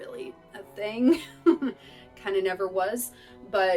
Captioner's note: laughter